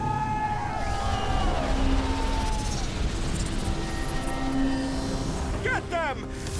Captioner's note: suspense music; people cheering